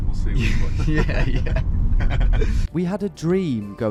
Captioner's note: laughs; inspirational music